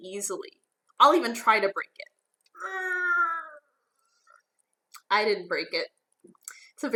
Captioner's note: gritting